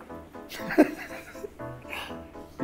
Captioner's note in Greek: γελάει